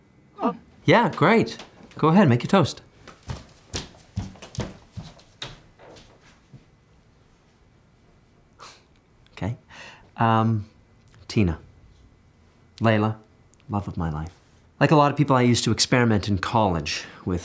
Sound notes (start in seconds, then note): 3.1 stomping; 8.5 chuckles